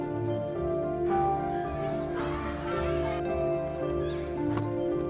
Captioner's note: children chatter